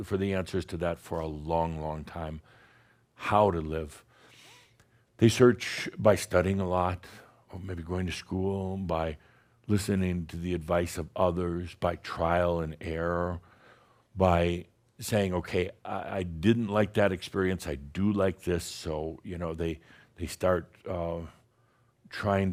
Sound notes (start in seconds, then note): none